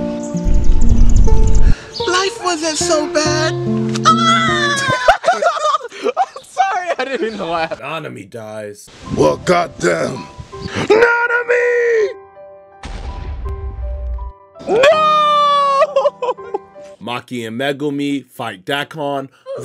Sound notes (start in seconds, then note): 0.0 melancholy music; 4.2 narrator laughs